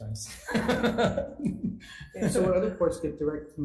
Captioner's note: assembly laughs